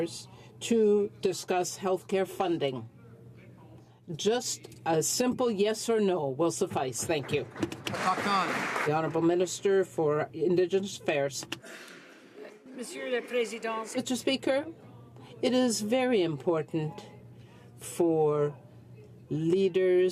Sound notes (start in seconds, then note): 11.7 some Applause